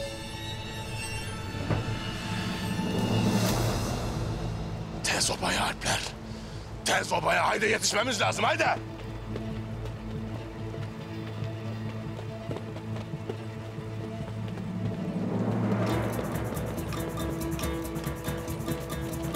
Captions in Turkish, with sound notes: Tez obaya Alpler. Tez obaya, hayde yetişmemiz lazım, hayde! (Müzik - Gerilim) (Ayak sesleri)